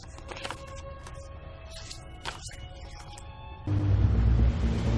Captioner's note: paper rustling; epic music starting